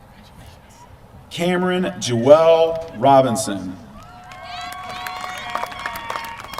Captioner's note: applause